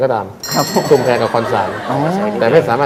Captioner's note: laughter